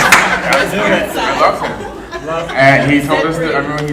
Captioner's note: audience laughing; laughing